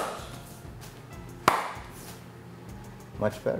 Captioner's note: claps hands